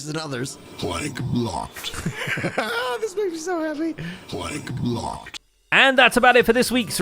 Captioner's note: laughs; disc repeats, layered over itself multiple times